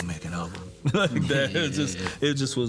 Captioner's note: chuckles